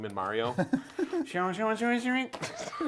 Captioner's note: laughs